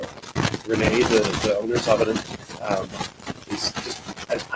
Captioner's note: static drowns out sound